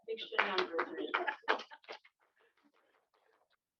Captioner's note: laughter